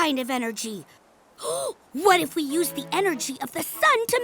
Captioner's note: gasps